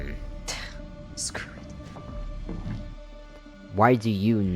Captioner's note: scoffs